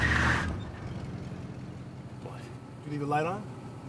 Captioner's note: car engine revving; tires screeching; car engine rumbling